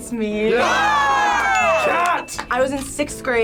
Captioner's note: group cheers